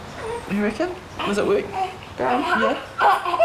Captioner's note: baby noises